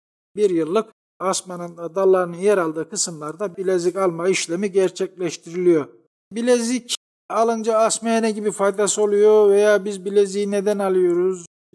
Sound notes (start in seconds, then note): none